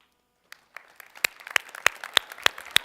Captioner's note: applause